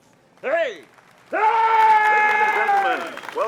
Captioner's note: Yuri cheering